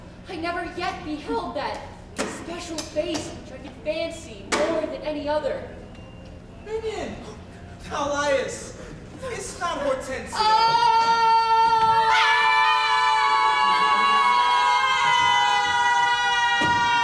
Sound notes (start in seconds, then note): 10.3 Bianca screams; 12.3 group screaming